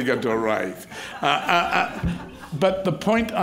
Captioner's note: crowd laughs